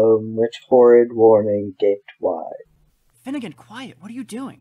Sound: whispered

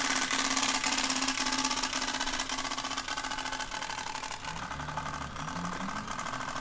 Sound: bike spokes sound

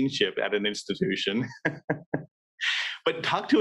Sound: laughs

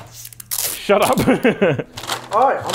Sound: laughs

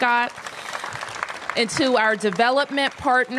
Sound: applause

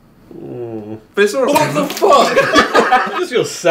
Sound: spitting water

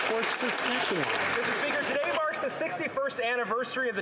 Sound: some Applause

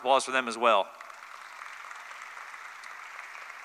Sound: applause

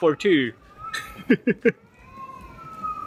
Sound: chuckle

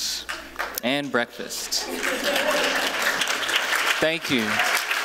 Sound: applause

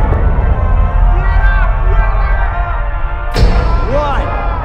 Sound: man distorted

